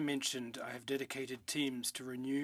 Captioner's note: speaking in French